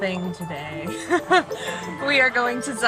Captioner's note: laughing